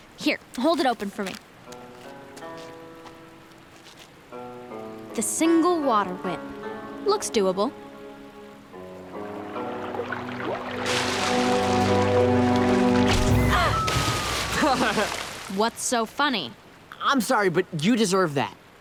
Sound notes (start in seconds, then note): 14.5 laughing